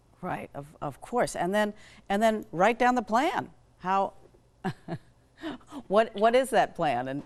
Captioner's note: chuckles